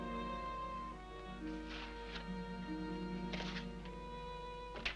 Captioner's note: paper rustles